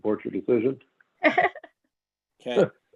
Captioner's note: laughing